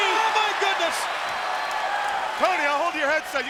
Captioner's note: applause